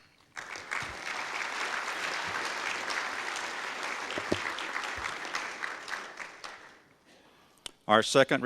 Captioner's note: audience applause